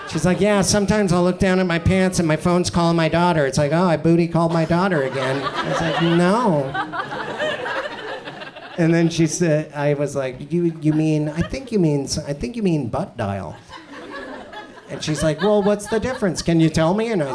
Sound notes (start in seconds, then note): 7.3 audience chuckles